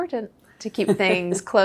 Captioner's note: laughing